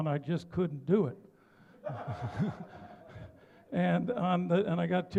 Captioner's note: laughter